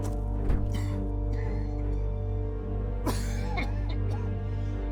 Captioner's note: David coughing